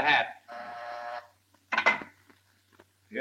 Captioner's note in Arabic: رنين الاتصال الداخلي